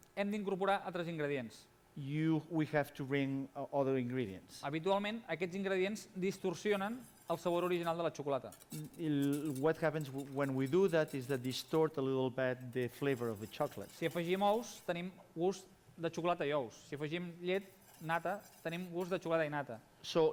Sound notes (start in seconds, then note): 1.0 non-english speech; 6.7 non-english speech; 16.5 non-english speech